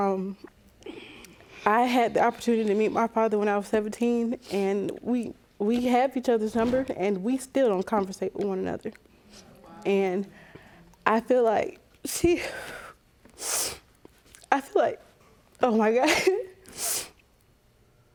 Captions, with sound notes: Um, I had the opportunity to meet my father when I was 17, and we... We have each other's number, and we still don't conversate with one another. (VOICE BREAKING) And I feel like she... (SNIFFLES) I feel like... Oh, my God. (SNIFFLES)